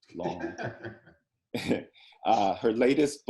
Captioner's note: Colson laughs